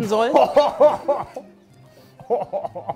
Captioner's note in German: Lachen